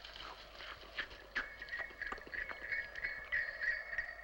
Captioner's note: sleigh bells approaching